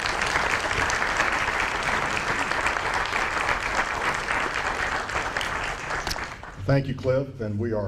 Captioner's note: applause